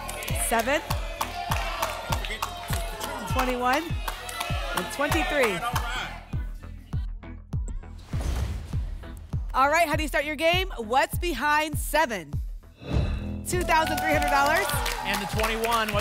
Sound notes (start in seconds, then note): 0.8 audience shouting numbers; 7.9 whoosh; 8.1 thump; 12.8 whoosh